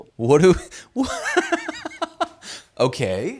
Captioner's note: laughs